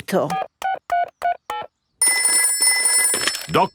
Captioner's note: dialing; telephone ringing